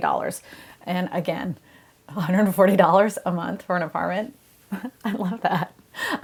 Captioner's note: chuckles